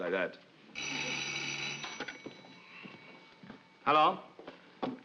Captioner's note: phone rings